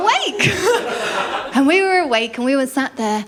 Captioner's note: laughter